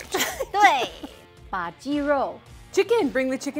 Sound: speaking in mandarin

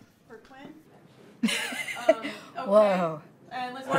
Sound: laughs

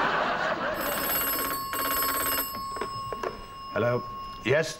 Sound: audience laughs; phone rings

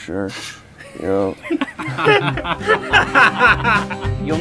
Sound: laughter

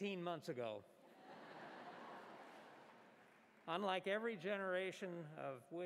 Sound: laughter

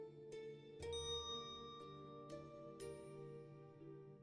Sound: bell dings

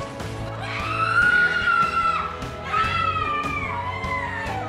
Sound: woman screams

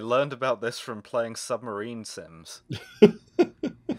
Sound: laughter

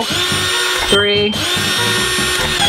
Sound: drill revs

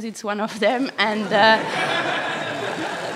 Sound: laughter

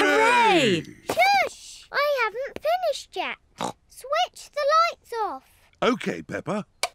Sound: snorts

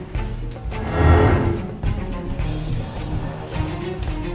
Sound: heavy whooshing

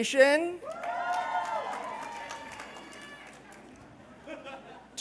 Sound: cheers

